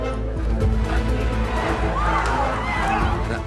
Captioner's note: screaming